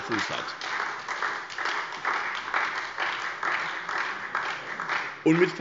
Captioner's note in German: Beifall SPD, BÜNDNIS 90/DIE GRÜNEN und DIE LINKE